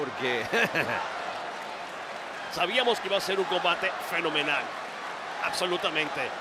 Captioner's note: laugh